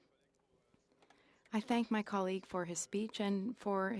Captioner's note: speaking French